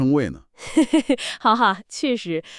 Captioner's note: laughter